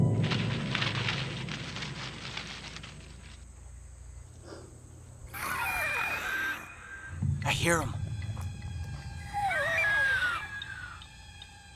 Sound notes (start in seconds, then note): 0.0 branches rustling; 5.3 animal shrieks; 9.2 shrieks continue